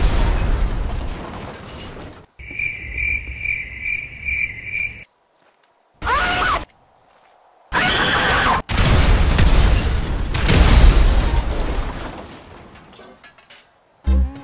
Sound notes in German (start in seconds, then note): 2.2 Grillenzirpen im Hintergrund; 7.7 Übersteuertes Schreien